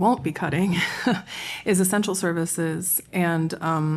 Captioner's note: laughter